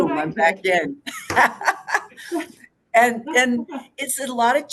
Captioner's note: laughs